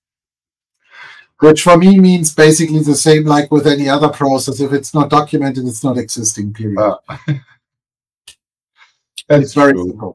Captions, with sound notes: Which for me means basically the same like with any other process. If it's not documented, it's not existing. (laughing) That's very cool.